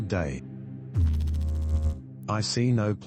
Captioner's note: electrical noise